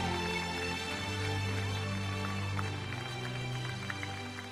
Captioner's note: audience cheering; audience applauding